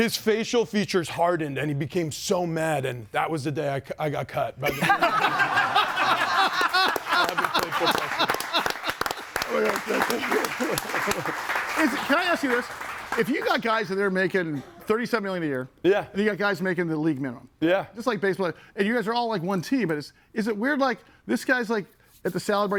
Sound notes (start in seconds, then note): 4.6 group laughs; 11.1 audience applauds